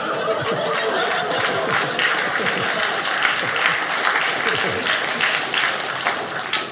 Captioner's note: audience laughing